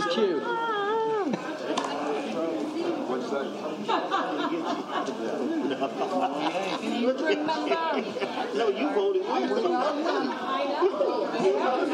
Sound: laughter

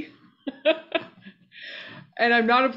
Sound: laughing

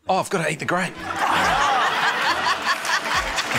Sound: laughter

